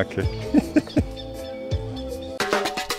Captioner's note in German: lachen